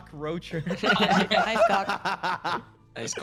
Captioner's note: laughing